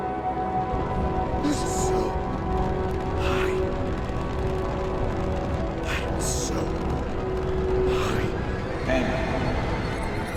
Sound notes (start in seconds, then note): 2.8 wind rustles